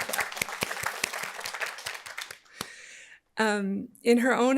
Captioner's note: audience applauding